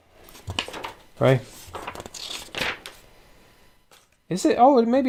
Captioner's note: pages of a book turn apologetically